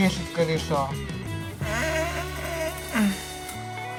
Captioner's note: puffs